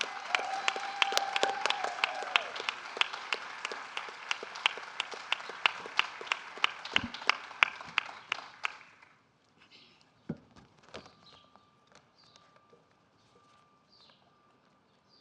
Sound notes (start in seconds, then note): 0.0 applause